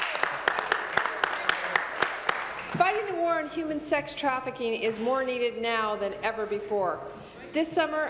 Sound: applause

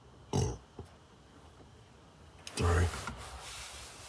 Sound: belches

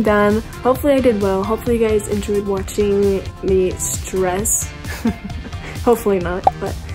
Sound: chuckles

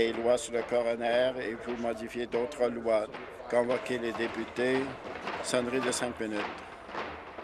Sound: tapping of desks

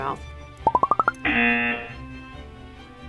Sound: buzzer

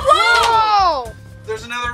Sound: everyone shouts

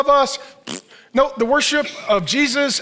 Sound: blows raspberry

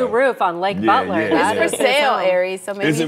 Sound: laughter

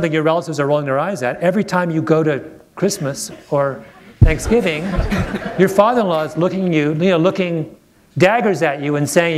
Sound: laughter

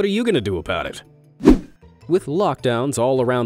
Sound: image whooshing

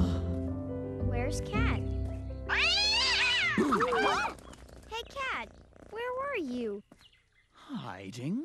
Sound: hissing

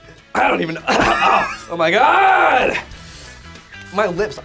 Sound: coughs

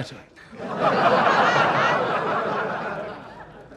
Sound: crowd laughing

